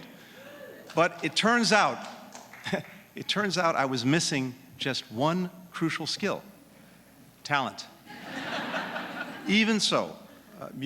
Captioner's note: laughter